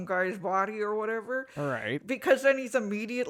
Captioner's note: none